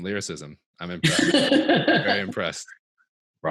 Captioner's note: laughing